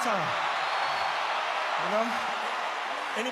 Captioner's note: crowd cheering